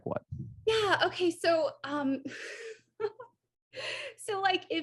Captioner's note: AJ laughs